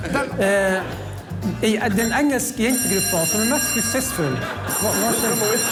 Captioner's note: fire alarm